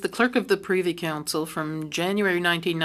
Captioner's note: speaking French